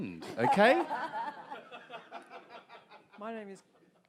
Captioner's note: audience laughs